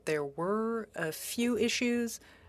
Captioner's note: speaking FRENCH